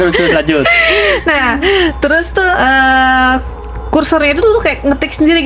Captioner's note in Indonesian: tertawa; terkesiap